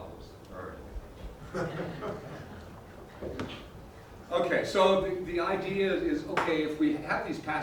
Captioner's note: laugh